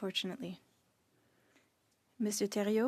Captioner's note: speaking French